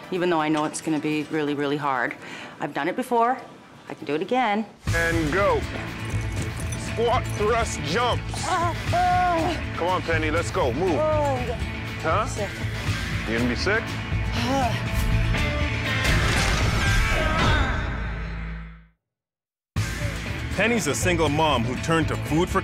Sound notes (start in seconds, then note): 8.4 groaning